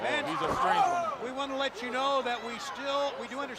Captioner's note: crowd chatter